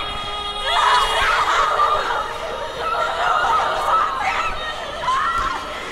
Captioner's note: girls screaming